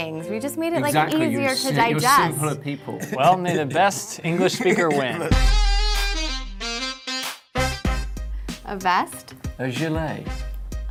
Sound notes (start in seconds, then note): 2.9 laughs